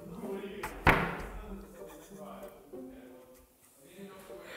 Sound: people mumbling

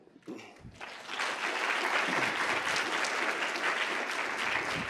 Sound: audience applauds

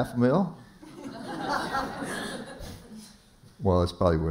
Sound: laughter

